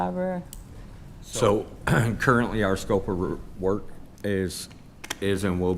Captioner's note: clears throat